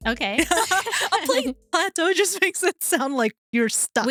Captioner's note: laughing